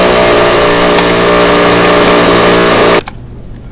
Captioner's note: engine whirring